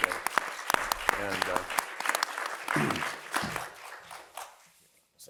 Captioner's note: applause